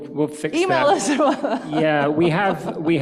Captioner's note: laughs